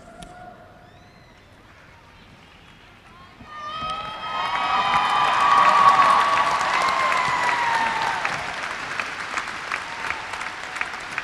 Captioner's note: cheers and applause